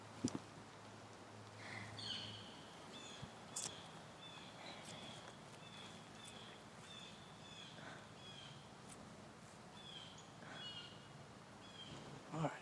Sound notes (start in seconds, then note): 2.2 birds chirping; 10.0 birds chirping